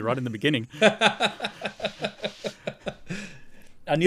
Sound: laughing

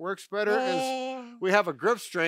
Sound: intones

